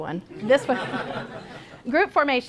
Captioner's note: laughter from audience